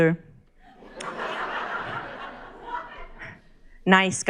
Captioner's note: crowd laughs